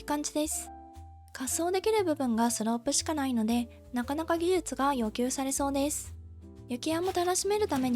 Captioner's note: sliding